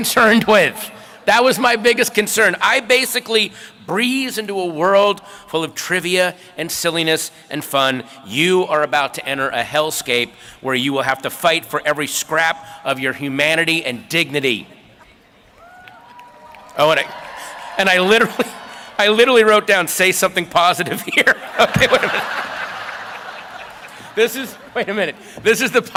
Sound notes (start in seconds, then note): 20.1 applause